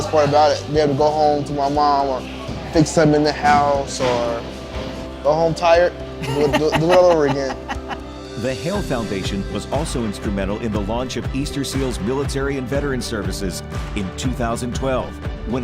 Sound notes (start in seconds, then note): 6.2 laughs